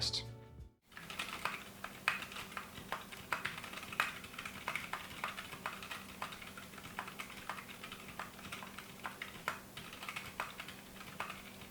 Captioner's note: awesome quiet keyboard sounds